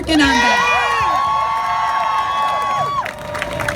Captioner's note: crowd cheers